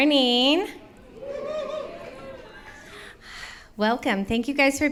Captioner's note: audience cheers